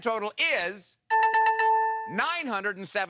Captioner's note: dinging